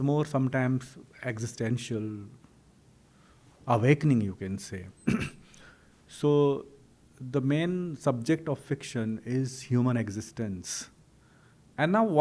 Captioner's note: clears throat